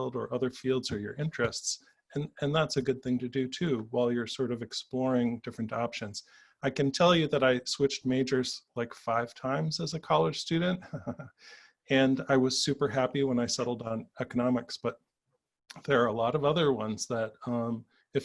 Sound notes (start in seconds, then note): 10.8 chuckles